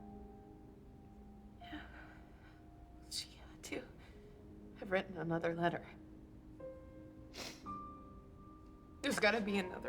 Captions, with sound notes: SHE HAD TO HAVE WRITTEN ANOTHER LETTER... [SNIFFS] THERE'S GOTTA BE ANOTHER LETTER.